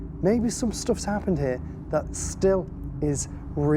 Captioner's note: none